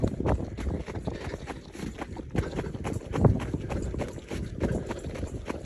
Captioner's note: inhaling and exhaling continues